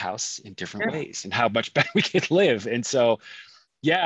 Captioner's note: laughs